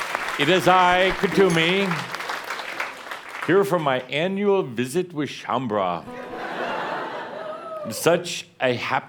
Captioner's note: laughter